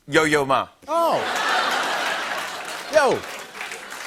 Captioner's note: laughter